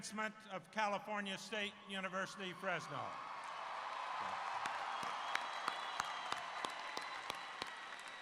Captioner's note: cheers and Applause